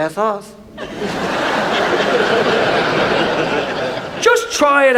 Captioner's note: audience laughs